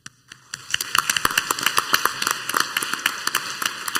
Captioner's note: clapping